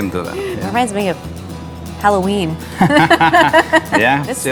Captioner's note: chuckling